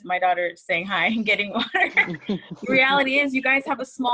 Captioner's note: laughing